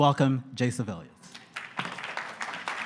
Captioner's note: applause